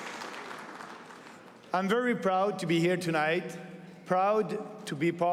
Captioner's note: applause